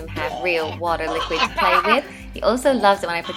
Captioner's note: laughs